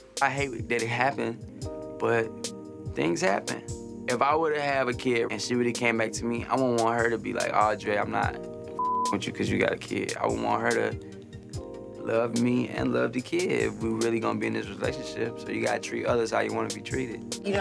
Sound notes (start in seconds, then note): 8.8 beep